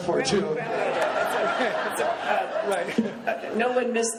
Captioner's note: laughing